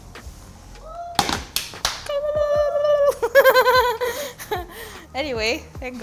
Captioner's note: cheers and claps; host laughs